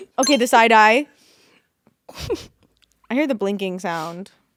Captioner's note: electric beep